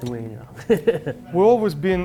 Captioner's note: chuckles